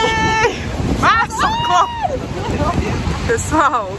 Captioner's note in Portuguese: grita